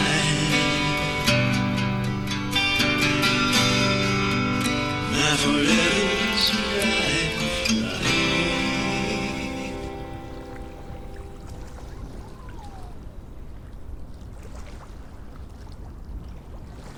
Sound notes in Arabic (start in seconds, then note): 11.2 تتوقف الموسيقى; 13.7 صوت الماء